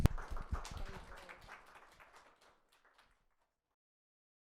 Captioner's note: audience applauds